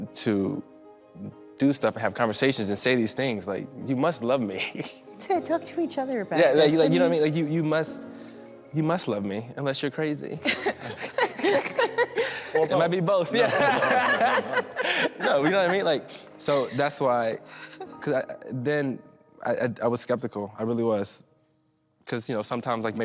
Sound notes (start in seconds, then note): 10.4 laughing; 14.6 laughter